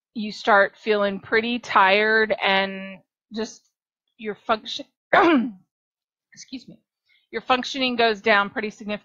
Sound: cough - excuse me

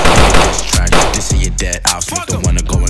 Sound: shots fired

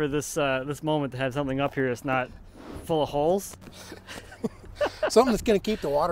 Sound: laughs

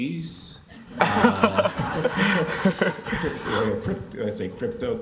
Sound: everyone chuckles

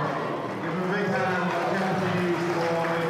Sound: acoustics drown out loudspeaker announcement; crowd cheering and clapping

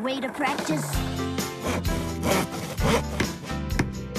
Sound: saw Scraping; hammer Tapping

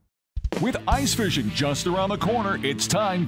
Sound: voiceover

